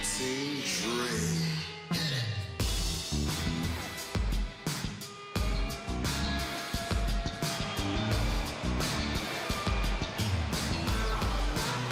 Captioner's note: crowd cheering